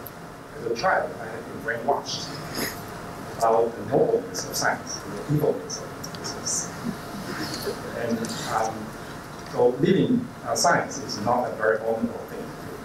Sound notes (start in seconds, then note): 6.8 laughter